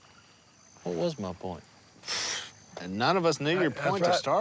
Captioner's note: none